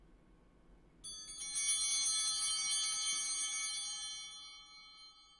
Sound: bell ringing

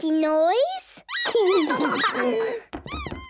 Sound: squeaking

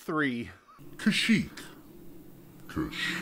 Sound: deep and demonic; deeper and more demonic

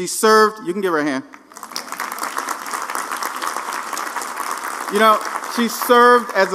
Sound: applause

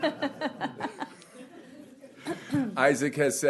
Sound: laughing

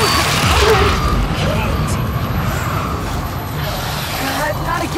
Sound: gunshots

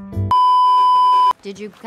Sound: beeeeeep

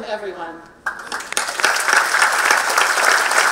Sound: applause

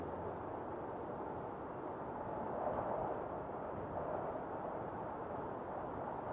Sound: wind blowing

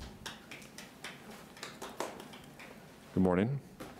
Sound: audience member applauding

